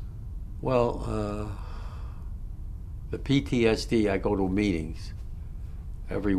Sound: sighs

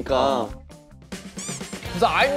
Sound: meow

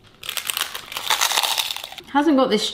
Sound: chips crunching

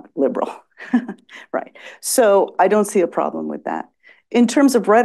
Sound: laughs

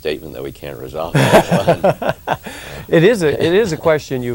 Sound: laughs

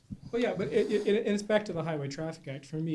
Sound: voiceover

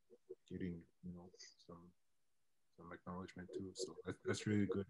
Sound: mutters

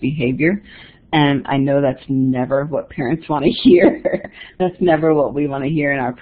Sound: chuckles

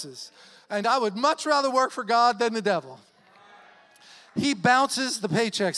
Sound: audience clamors

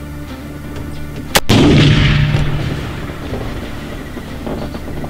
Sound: rifle fires

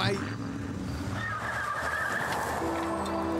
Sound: <i>tires screeching,</i> <i>car driving away</i>

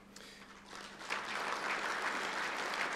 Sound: applause

